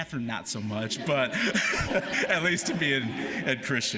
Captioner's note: laughter